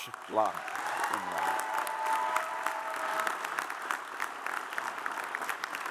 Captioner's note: audience cheers and applauds